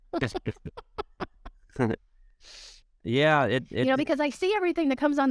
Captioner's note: laughter